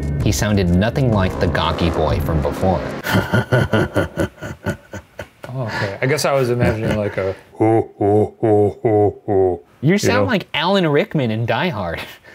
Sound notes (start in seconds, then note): 7.3 laughs